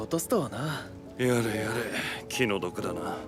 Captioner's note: sigh